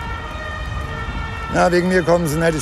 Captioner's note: ambulance